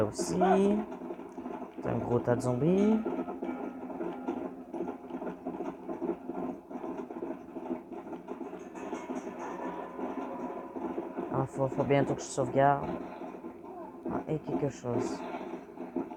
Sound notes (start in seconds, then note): 4.1 sounds of a galloping horse; 7.9 screepy music